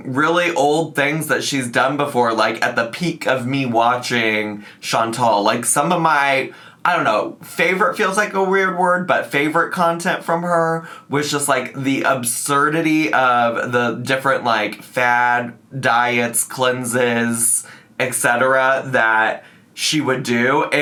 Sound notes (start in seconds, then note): none